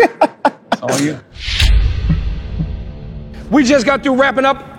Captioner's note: laughter